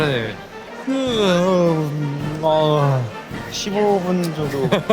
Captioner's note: yawn